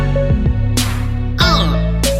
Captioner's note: uhn!